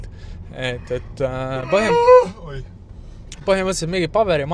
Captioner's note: yawns